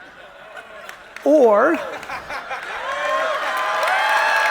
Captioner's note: audience cheering